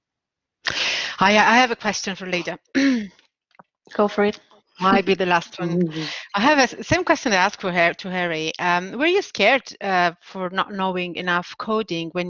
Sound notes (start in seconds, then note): 3.0 clearing throat